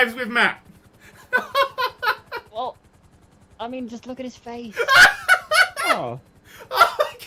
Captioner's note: laughs